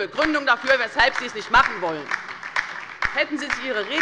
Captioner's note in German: Beifall bei der LINKEN